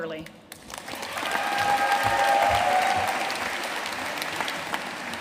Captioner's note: audience cheering and applauding